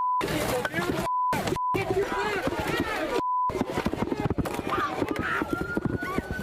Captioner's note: shouting